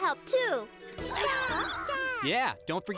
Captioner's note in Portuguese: todos balbuciando